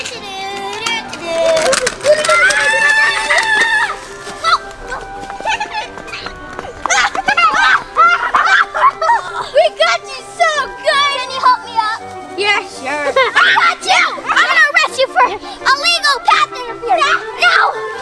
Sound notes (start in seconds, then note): 2.2 assistant screams; 8.0 Ryan and Smalls laughing